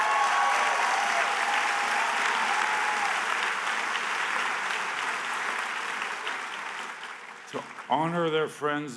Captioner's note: cheers and applause